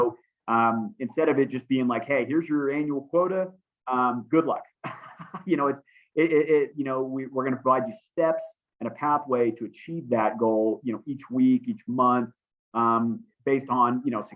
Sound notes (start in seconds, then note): 4.8 laughter